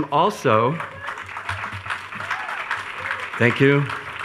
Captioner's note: attendees cheering